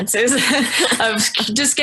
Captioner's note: both laugh